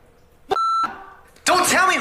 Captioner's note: beep